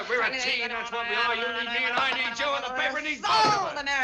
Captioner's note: imitating auctioneer